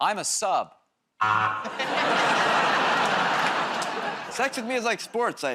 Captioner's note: laughter, buzzer